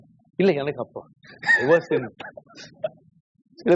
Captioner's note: laughs